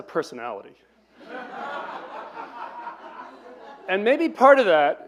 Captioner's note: laughter